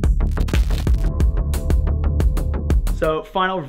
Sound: intense music; static crackling

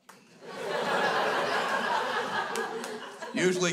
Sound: crowd laughs

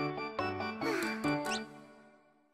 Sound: sigh

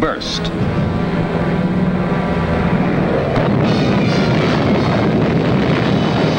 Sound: dramatic music; bombs blasting

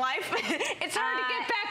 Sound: laughter

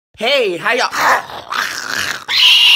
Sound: Zacian growls furiously; weird, scared screech

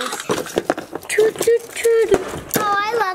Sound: ornaments banging; imitates train

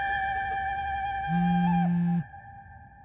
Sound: phone vibrates

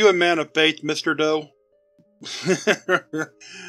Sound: Mr. Doe chuckles

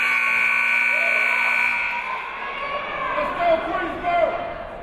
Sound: timer buzzes

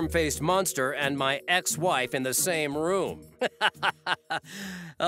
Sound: laughing

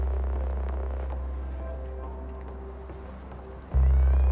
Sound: mood music; footsteps; mood music

